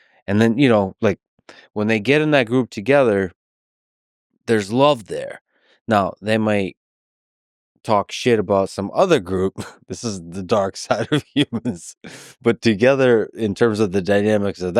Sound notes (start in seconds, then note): 10.7 laughs